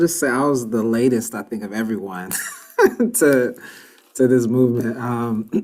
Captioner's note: laughs